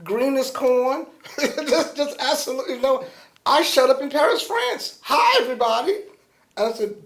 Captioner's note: laughter